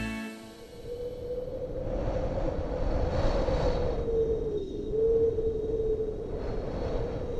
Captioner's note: wind blowing